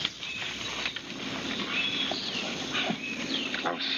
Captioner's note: birds chirping